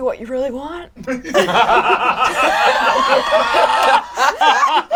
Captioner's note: all laugh